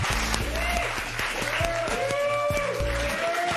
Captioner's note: cheers and applause